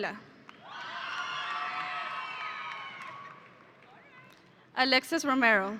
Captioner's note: audience applauding